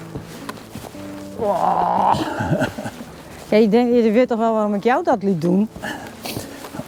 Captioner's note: groans and groans